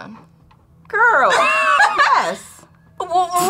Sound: laughs

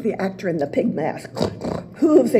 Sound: snort, snort

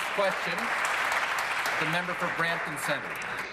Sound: applause

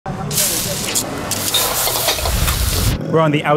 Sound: food sizzles

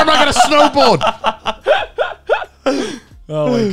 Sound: laughing

